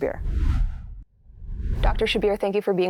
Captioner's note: graphic whooshing